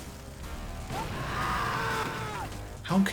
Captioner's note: explosion, and a man screams whilst flying past the player